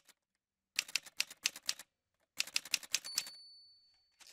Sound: typewriter sounds

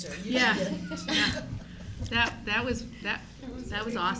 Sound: laughing

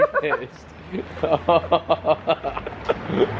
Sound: laughing

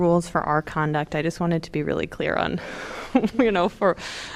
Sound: laughter

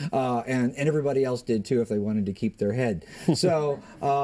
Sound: laughter

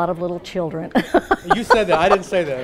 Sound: laughing

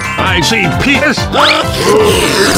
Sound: reverse scream

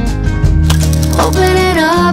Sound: camera shutters

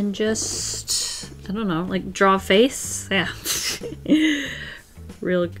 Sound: laughs

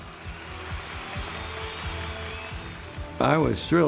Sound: crowd applauds

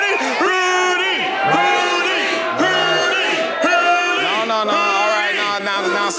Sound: crowd

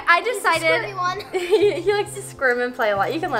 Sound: chuckles

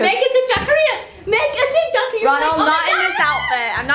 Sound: playfully yelling

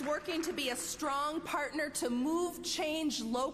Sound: applause

